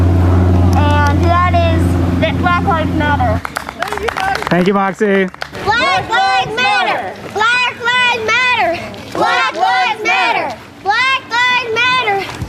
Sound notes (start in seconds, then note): 3.0 people cheer; 6.3 crowd